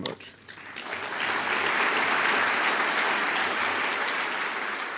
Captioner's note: applause